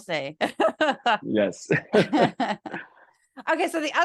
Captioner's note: laugh